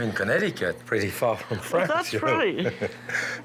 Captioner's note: laughs